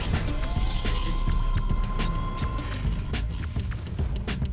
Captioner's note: machine whirs; funky music